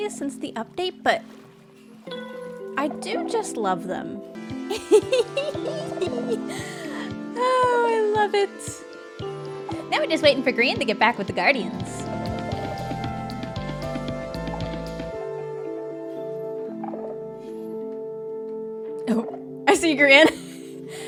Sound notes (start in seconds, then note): 4.7 laughs